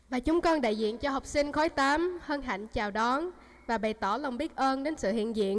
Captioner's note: student speaking foreign language